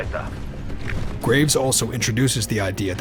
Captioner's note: voiceover